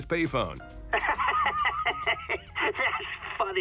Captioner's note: laughing